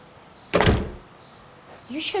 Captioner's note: front door thuds